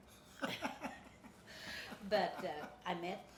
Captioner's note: laughing